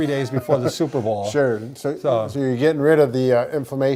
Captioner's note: chuckles